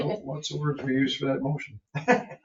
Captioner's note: member chuckles